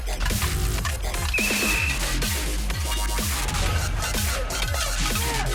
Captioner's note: whistle blowing